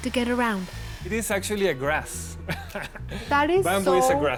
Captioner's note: laughs